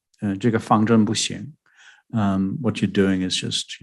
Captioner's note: speaking mandarin